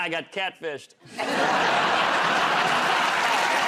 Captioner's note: laughter